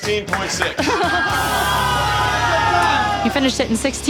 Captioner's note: laughter